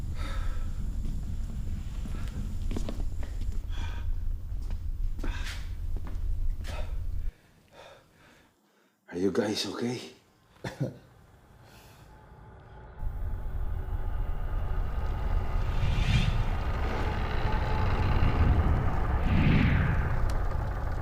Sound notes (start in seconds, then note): 0.2 Monte sighs; 10.6 Bolo coughs; 15.9 whooshing